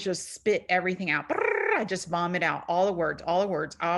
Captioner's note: trills